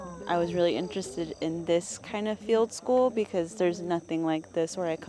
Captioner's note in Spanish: conversaciones al fondo